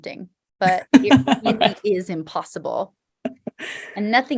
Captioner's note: laughing